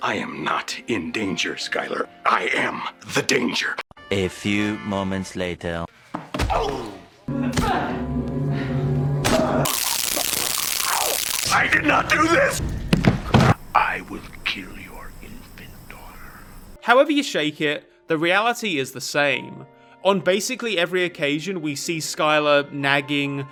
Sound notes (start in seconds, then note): 6.2 kicking; 7.6 thumping; 9.6 tasering